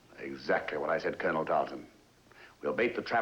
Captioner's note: none